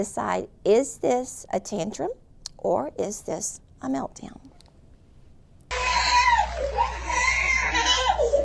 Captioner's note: crying